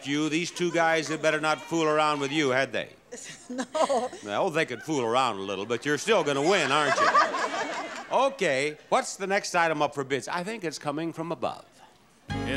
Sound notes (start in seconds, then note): 3.1 laughs; 7.6 audience laughs